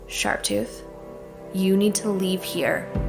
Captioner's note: calmly